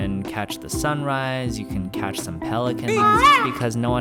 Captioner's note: peacock noise